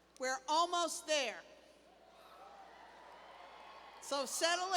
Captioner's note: cheers